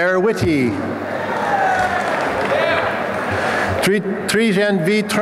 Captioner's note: applause and cheering